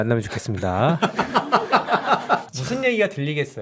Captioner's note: laughing